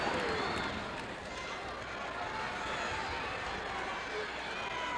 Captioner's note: crowd chattering